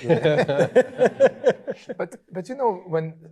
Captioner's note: laughing